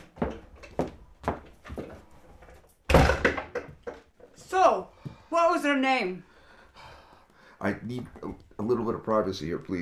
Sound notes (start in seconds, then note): 2.9 slams door